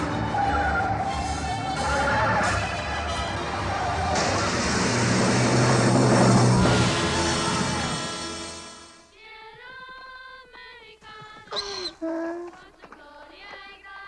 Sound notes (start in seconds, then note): 3.4 crash sounds; 9.2 children singing in Spanish; 9.2 donkey brays